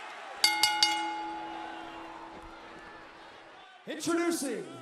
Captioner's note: bell ringing